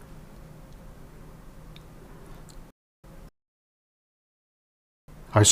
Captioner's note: silence